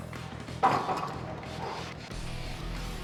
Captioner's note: weights clunking; upbeat rock music